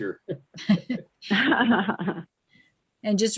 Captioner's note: laughing